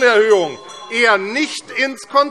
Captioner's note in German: Unruhe - Glockenzeichen